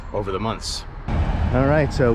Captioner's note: street noise